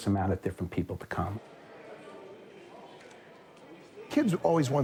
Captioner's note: shopping mall ambience